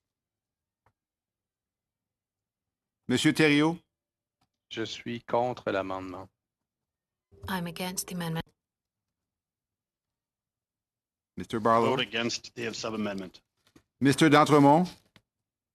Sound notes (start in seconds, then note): 8.5 speaking in French